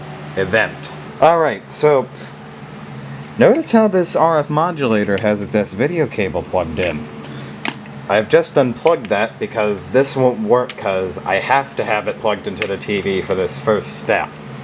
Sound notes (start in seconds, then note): 6.7 sound of me unplugging the S-Video cable; 7.6 sound of S-Video plug hitting the floor